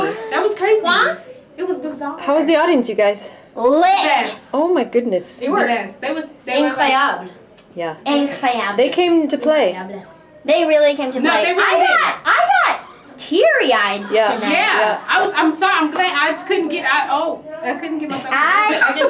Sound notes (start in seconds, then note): 6.6 speaking foreign language